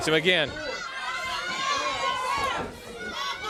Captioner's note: crowd cheering